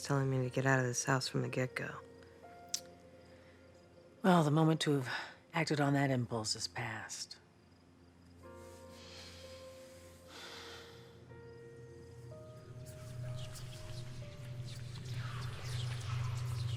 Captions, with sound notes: to get out of this house from the get-go. - Well, the moment to have acted on that impulse has passed. (sighs) (ominous whispers)